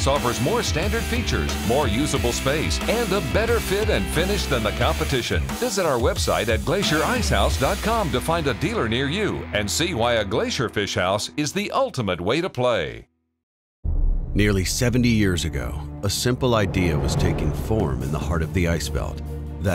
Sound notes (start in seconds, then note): 14.2 voiceover